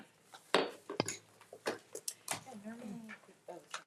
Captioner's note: gavel thuds; trustee speaking faintly